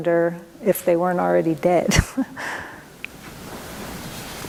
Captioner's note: laughs